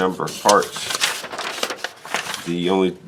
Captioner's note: paper rustling